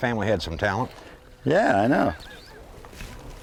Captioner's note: laughter